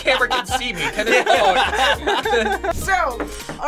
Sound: both laugh

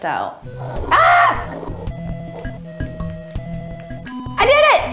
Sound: shouts

